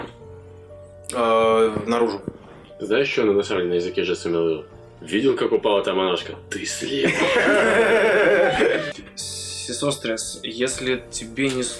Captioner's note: the table bursts out laughing